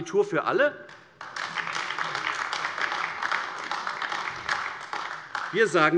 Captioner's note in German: Beifall AfD